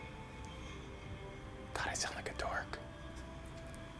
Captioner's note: whispers